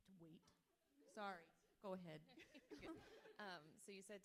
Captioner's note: everyone laughing